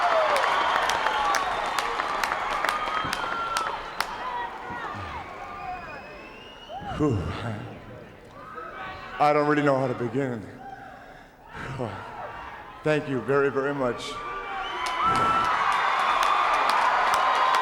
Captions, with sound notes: (crowd applauds) (Flair exhales) I don't really know how to begin. Thank you very, very much. (crowd cheers)